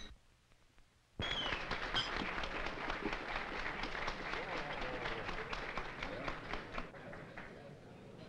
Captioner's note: applause